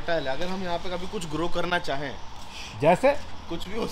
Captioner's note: shhh